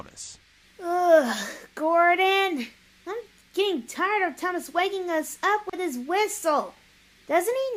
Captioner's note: groans